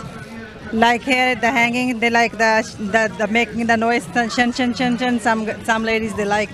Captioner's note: imitates noise